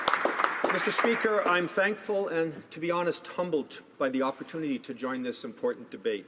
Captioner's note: some applause